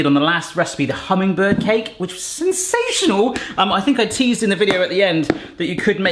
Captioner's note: none